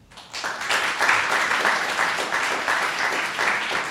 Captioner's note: audience applauding